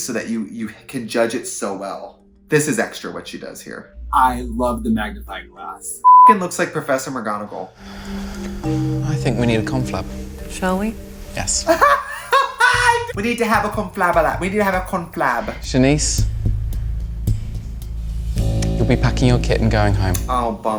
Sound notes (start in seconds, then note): 6.0 beep; 11.7 woman laughs